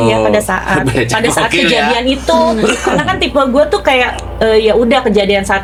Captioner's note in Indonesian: berdehem